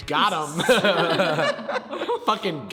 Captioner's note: laughs